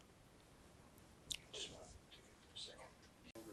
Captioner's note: whispering